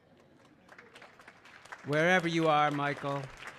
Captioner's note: everyone clapping